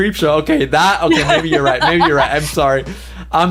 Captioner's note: laughs